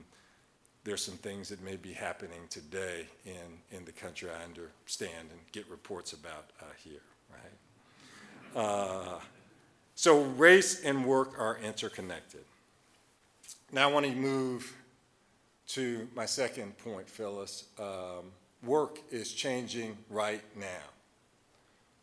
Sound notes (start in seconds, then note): 8.2 audience chuckling